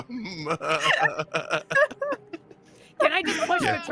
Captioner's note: laughs; laughing